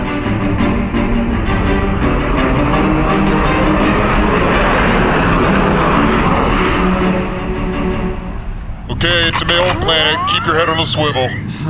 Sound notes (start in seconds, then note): 3.0 transition music: Cello Theme with Flyby; 9.2 racking rifle